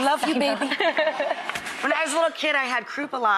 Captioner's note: audience laughs